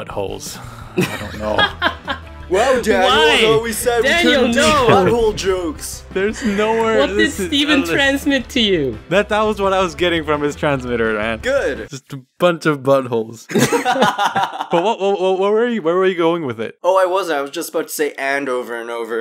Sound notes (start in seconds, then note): 13.5 laughing maniacally